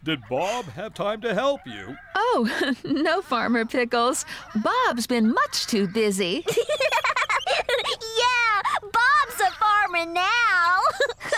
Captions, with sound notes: DID BOB HAVE TIME TO HELP YOU? ( Chuckling ) OH, NO, FARMER PICKLES. BOB'S BEEN MUCH TOO BUSY! ( Giggling ) YEAH, BOB'S A FARMER NOW!